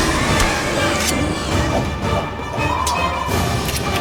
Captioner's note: dramatic music; raptor snarls; blade scrapes; blade clatters